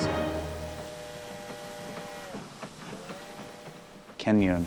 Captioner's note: train horn blares, steam hisses